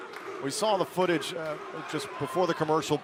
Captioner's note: crowd chatter